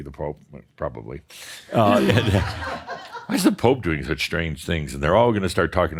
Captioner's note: laughter